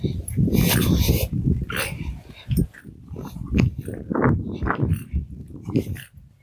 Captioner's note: wind